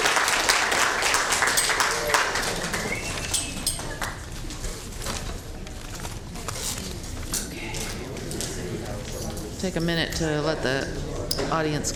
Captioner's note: applause